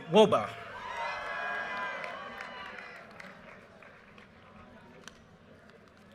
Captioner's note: audience cheers and applause